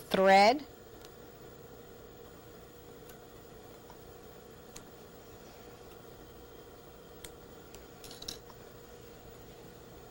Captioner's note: scissor cutting thread